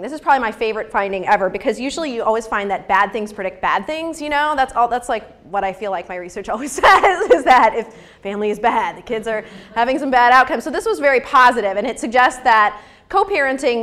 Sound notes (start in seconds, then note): 6.7 laughs